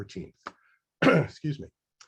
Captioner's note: coughs